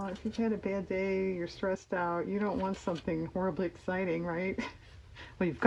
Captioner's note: laughs